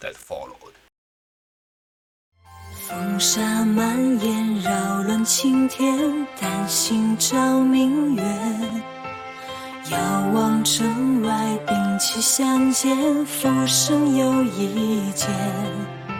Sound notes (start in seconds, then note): 1.4 silent